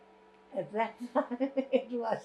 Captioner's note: laughing